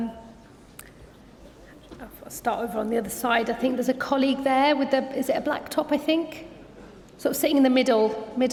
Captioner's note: none